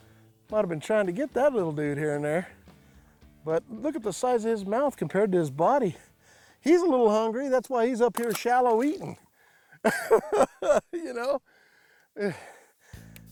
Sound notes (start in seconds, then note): 9.9 laughs